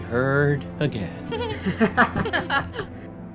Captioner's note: laughter